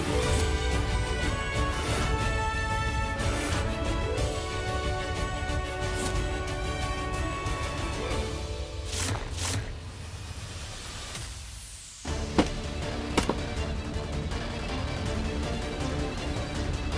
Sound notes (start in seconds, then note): 12.3 thudding